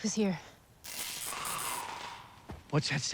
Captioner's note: zapping, groaning